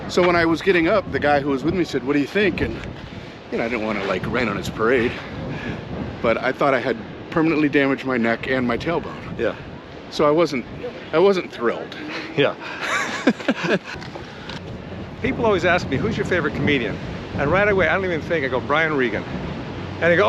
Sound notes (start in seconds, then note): 12.1 both laugh